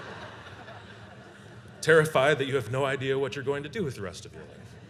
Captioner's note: laughter; laughter